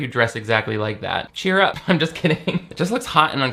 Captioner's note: laughs